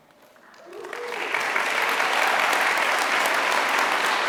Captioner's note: applause